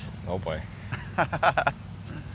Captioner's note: laughs